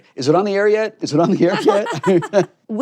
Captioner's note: laughs